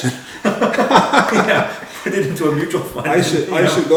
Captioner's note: laughter